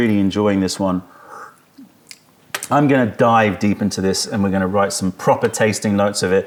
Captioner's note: sips tea